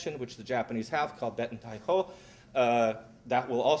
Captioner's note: japanese